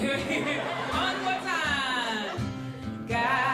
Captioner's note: laughter